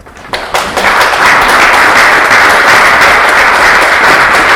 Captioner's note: applause